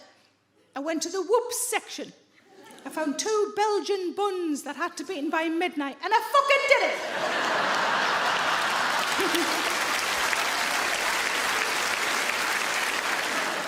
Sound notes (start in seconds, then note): 6.9 audience laughing; 9.9 audience clapping